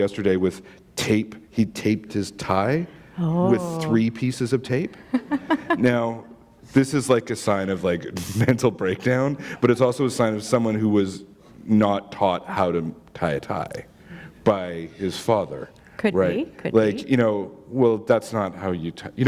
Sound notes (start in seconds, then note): 4.9 chuckle